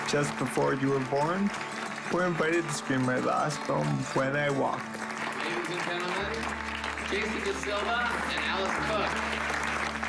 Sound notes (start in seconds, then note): 0.7 clapping